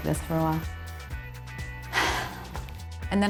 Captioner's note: sighs